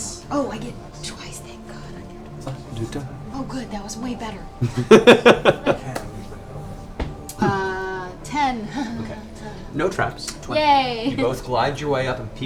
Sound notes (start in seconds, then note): 4.5 laughs